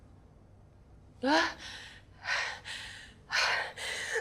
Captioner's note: pants